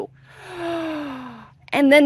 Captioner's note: gasps